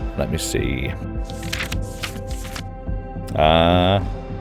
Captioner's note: pages flipping